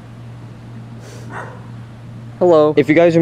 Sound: dog barking

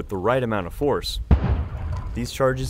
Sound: explosion

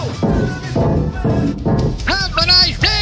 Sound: banging

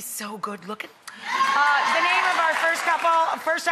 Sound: applause

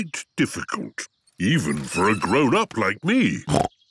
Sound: snorts

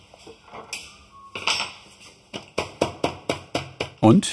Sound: knock

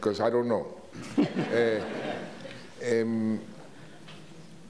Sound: audience laughs

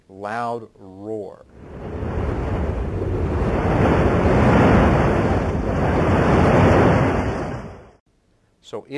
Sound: roar of tsunami waves

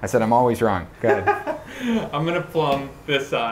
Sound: man laughs

